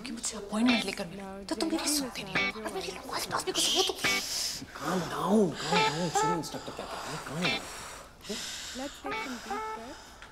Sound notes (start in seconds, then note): 6.6 breathing deeply